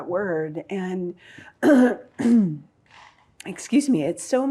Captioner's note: clears throat